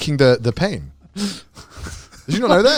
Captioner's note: laughing